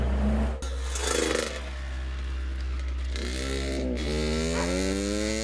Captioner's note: motorcycle rumbling; dog barking